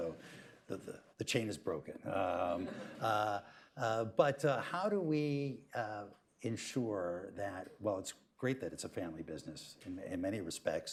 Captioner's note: laughter